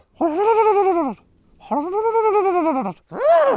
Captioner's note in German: jemand macht Tiergeräusche; er wiehert